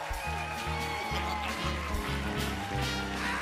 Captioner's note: cheers and applause; cackling